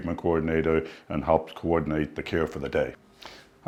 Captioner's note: none